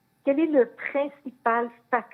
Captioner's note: speaking French